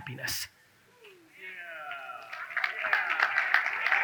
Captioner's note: audience cheers